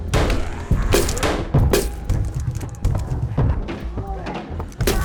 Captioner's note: banging